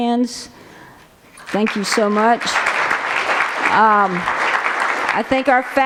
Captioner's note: applause